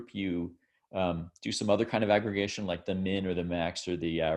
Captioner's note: none